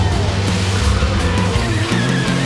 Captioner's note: spark